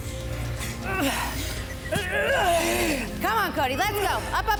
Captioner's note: wheezes